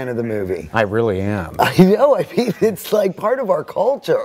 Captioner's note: laughing